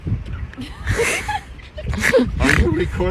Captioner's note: giggle